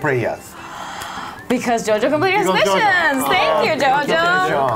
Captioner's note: gasp